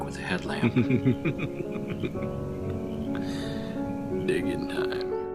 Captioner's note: laughing